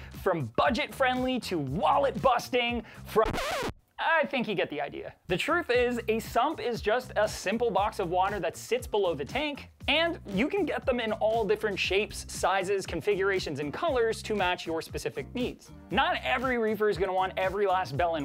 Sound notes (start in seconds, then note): 3.2 record scratching